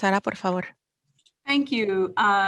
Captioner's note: speaking foreign language